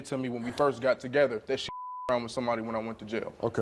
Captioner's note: beep